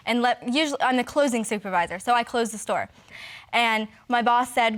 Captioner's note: stammering